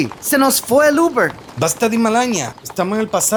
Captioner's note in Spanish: hablando chamorro